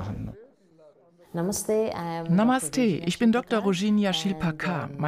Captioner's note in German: englisch